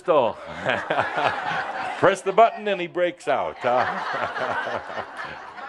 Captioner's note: more laughter; more chuckles